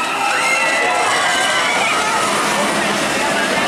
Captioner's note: screaming